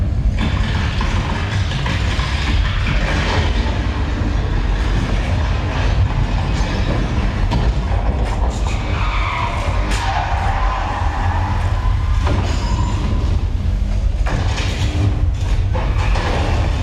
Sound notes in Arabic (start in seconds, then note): 8.8 صراخ الإطارات; 14.0 أزيز الأضواء